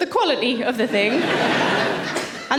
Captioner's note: audience laughing